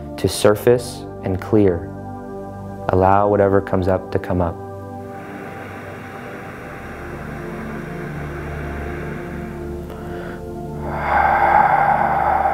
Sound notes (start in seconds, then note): 4.8 breathing heavily; 5.0 gentle music